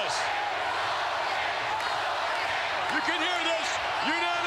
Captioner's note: crowd chanting